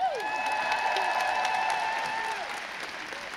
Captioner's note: crowd cheers